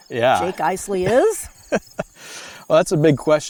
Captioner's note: laughs